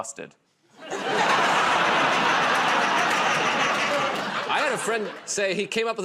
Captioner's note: laughter